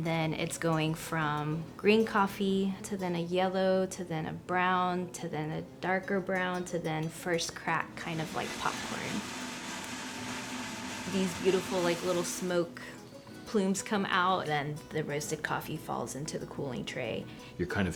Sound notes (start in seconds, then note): 10.0 machine whirring